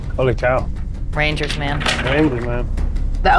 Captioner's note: dice rattling